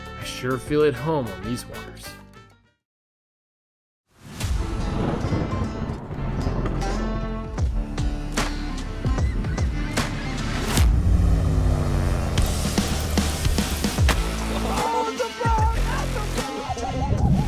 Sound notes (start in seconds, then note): 4.3 intense music begins; 4.5 thunder rolls